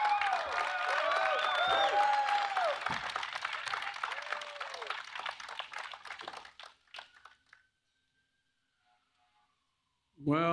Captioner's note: applause